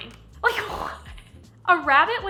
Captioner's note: laughing